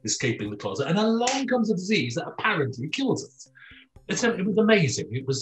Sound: claps

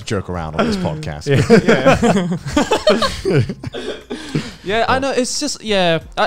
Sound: laughs

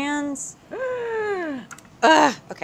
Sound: inhales deeply

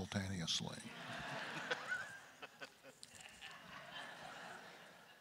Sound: crowd laughter; laughs

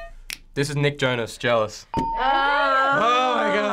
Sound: hitting bell; groaning

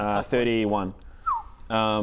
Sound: whistle

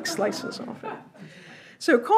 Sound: audience laughs

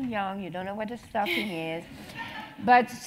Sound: laugh

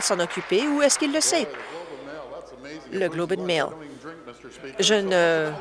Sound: applause

